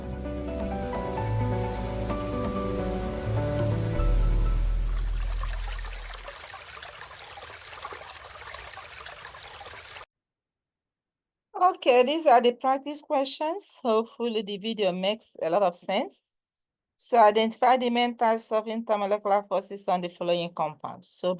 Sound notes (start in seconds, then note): 0.2 upbeat music; 4.5 water sloshing